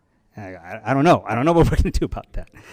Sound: chuckles

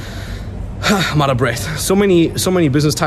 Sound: sighing

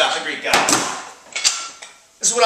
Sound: book thuds

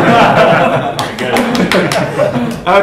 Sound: laughter; applause & laughter

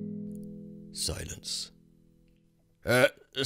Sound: silence

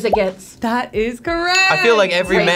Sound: graphic popping; bell dinging

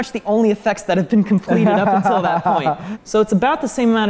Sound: laughing

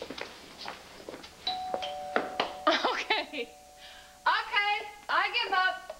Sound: doorbell rings

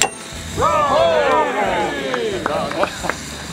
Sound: officials cheering

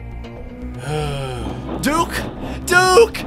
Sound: sigh

